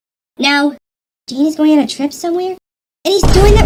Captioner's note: whispering